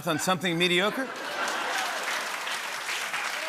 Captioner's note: laughter and applause